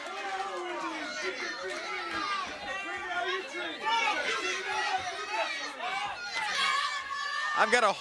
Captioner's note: crowd chatter